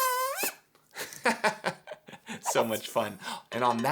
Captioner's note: laughing